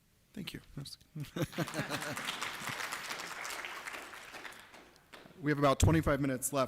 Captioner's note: applause